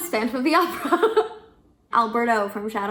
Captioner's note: laughs